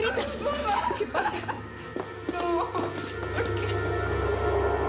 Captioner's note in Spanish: llanto